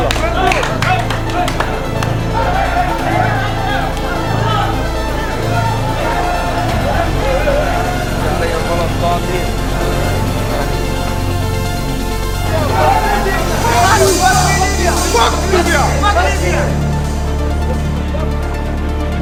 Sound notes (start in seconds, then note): 2.8 dramatic music; 2.8 indistinct chattering; 13.2 men yell; 17.1 dramatic music continues